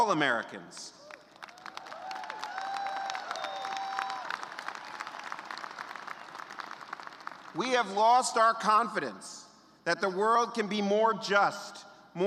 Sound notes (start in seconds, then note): 2.5 cheers and applause